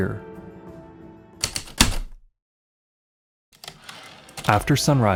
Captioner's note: heavy typewriter keystrokes then return slide